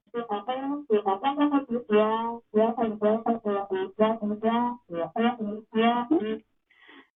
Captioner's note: Charlie Brown teacher mumbles